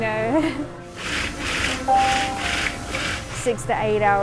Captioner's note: laughs; blender whirring